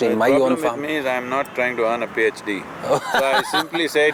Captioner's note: Shashi Kumar Laughs